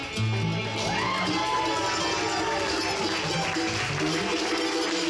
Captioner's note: audience cheering